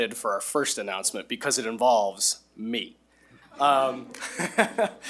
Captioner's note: laughs